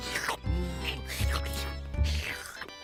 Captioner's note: slurping